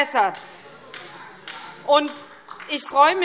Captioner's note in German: Vereinzelter Beifall SPD